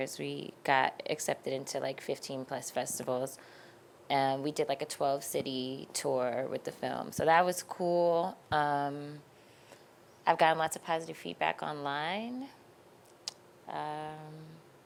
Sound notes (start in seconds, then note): none